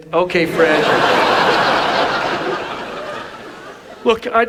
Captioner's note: audience laughs